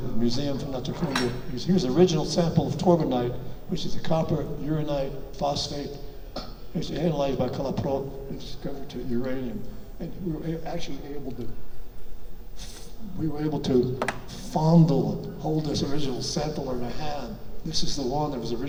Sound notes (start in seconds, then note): none